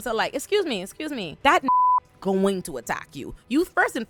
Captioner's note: beep